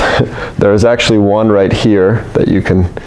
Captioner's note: laughs